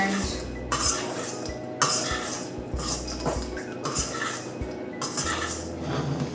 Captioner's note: metal spoon on metal bowl action